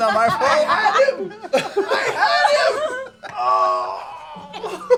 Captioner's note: groans